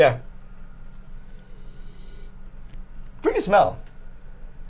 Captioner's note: sniffs